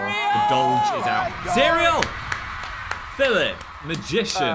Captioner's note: audience cheering